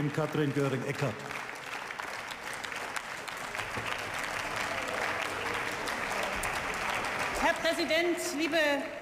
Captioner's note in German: Beifall